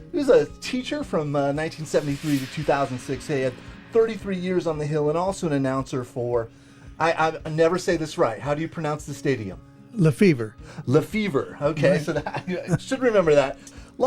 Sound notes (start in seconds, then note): 12.1 laughing